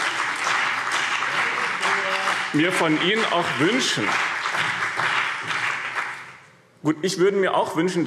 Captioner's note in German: Beifall BÜNDNIS 90/DIE GRÜNEN und CDU